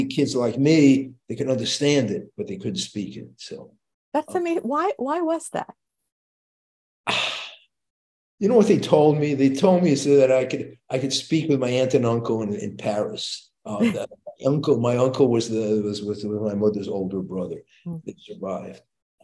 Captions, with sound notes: You know, all the kids like me, they could understand it, but they couldn't speak it, so. - That's amazing. Why was that? - (sighs) You know what they told me? They told me so that I could speak with my aunt and uncle in Paris. My uncle was with my mother's older brother. They survived.